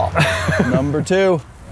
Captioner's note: laughs